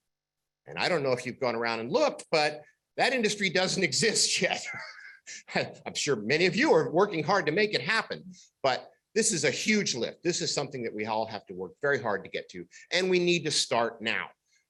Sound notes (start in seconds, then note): 4.6 laughter